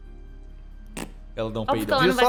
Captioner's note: poot